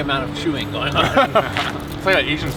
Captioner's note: all laugh